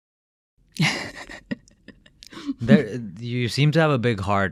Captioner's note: laughing